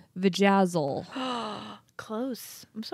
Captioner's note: gasps